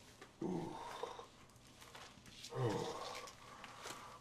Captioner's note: moaning in pain